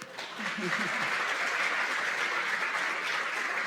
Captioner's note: applause